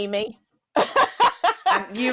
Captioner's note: laughter